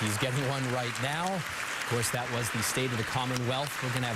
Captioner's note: cheers and applause